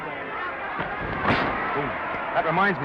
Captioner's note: crowd cheering; punch thudding